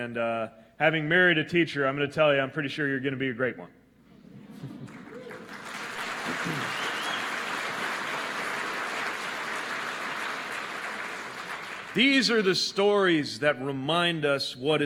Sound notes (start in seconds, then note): 8.8 applause